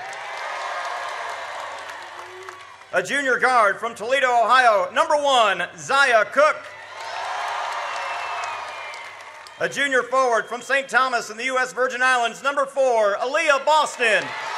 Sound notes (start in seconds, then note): 0.0 audience cheers; 6.5 audience cheers; 13.8 audience cheers